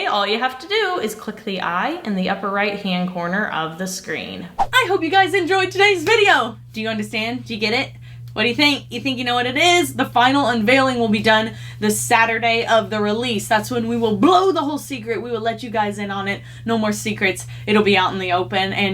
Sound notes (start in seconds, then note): none